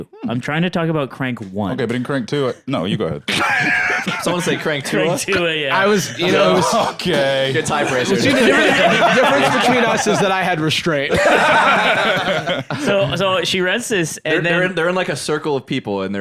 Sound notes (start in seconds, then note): 5.8 laughing; 11.0 all laughing